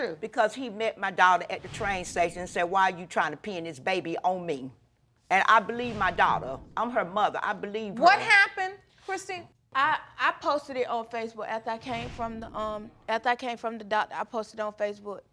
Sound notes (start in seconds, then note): none